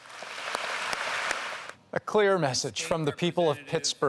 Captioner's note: applause